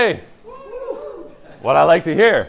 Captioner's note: cheering